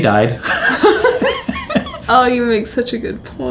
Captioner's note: both laughing